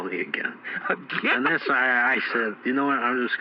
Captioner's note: laughing